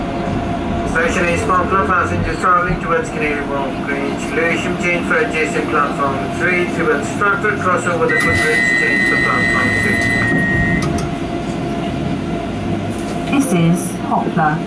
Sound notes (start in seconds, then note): 0.9 train Operator Announcement